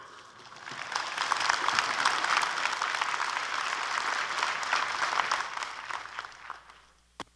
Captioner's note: applause